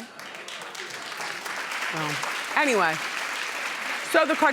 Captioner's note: applauding